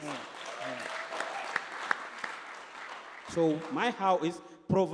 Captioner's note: applause